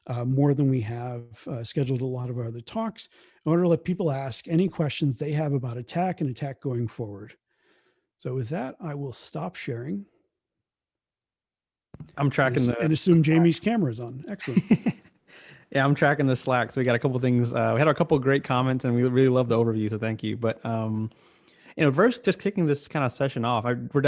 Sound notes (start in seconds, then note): 14.0 laughing